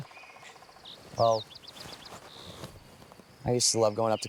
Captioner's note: Benny chuckling